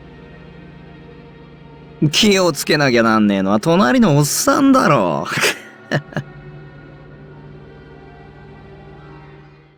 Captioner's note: chuckle